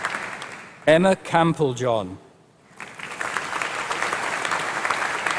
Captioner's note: applause